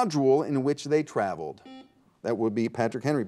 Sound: buzzer beeps

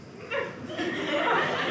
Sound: audience laughing

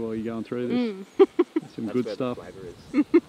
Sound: laughing

